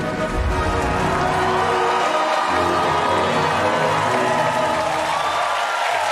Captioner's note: audience applauding and cheering